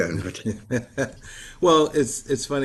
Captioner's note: laughs